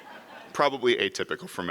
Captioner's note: audience laughs